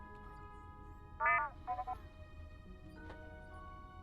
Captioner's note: R7 chirping on comlink